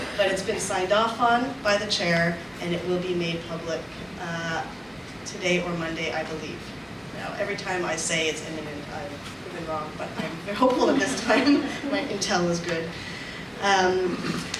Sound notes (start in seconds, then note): 10.8 audience laughs; 10.8 laughs